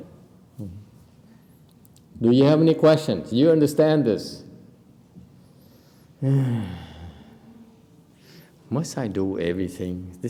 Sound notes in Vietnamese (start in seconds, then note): 4.4 sigh